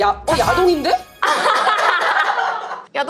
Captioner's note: ha ha ha